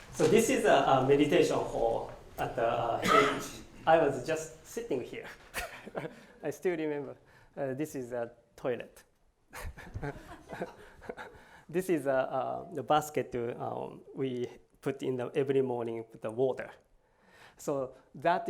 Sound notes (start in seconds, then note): 5.5 laughs; 9.5 laughs; 9.5 laughter